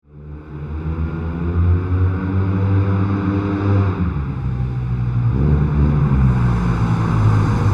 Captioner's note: engine revs on road